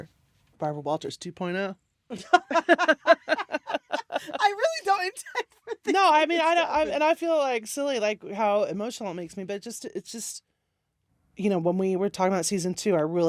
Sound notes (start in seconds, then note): 2.1 laughter